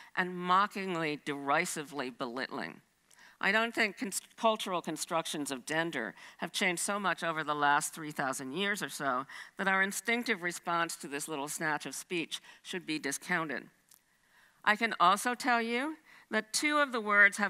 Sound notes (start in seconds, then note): none